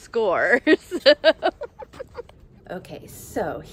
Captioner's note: giggling